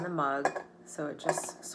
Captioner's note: objects clattering